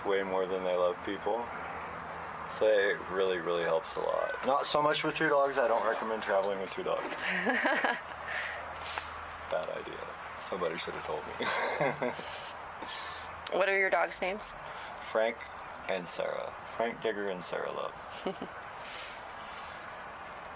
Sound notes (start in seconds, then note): 7.2 laughter; 11.4 laughs